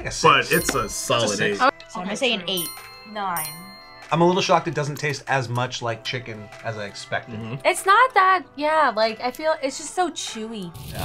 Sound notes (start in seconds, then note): 2.5 bell chimes